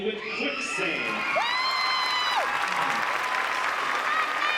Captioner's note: applause